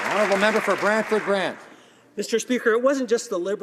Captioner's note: some Applause